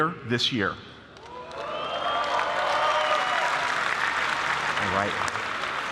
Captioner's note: applause